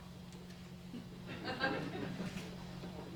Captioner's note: laughter